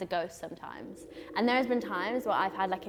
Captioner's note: howling wind